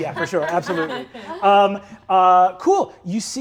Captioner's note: laughs